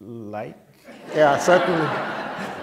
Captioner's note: laughter